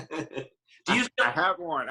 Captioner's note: laughing